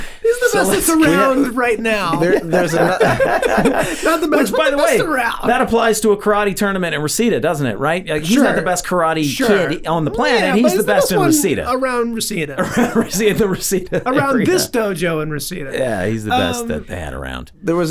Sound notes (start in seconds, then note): 2.9 all laughing